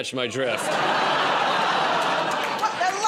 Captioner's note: laughter, groaning